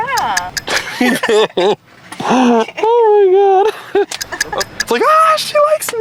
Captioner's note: laughs